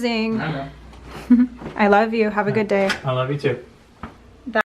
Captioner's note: chuckles